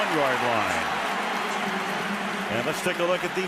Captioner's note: cheering